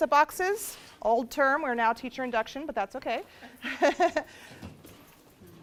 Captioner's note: laughs